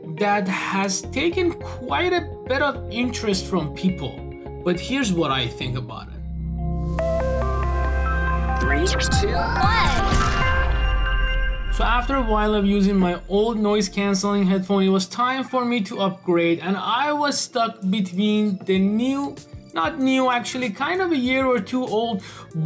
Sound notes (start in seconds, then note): 6.6 bright music; 8.8 digital Voice